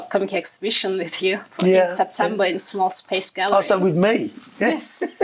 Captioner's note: laughing